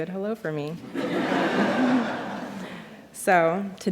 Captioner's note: laughter